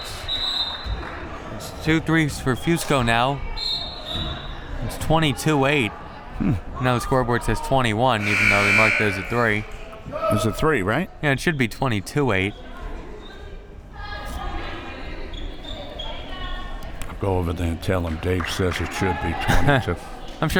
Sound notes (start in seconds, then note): 0.0 whistle; 3.5 whistle; 8.2 buzzer